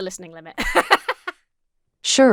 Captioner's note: laughs